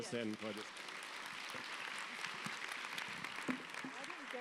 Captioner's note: audience applauds